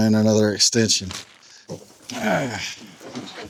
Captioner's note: grunts